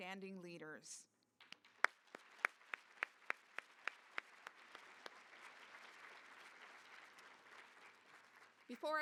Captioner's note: applause